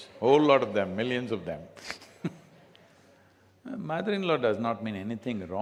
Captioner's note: laughs